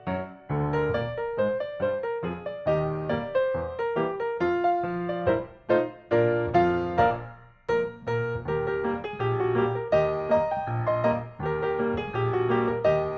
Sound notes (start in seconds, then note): none